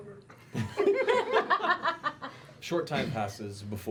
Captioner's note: laughter